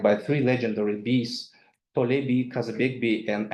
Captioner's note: speaks in foreign language